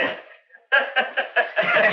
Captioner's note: Laughing